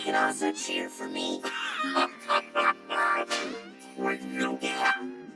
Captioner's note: laughs